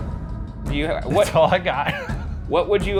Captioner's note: laughs